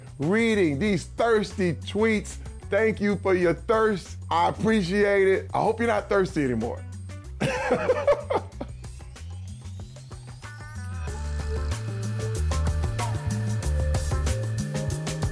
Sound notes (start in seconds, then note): 7.4 laughs; 8.9 upbeat music